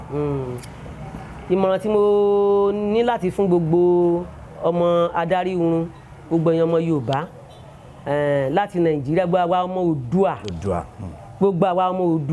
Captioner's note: Yoruba